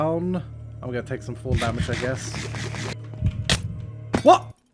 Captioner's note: trident stab